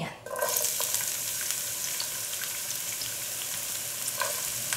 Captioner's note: oil sizzling